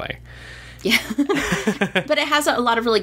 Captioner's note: laughs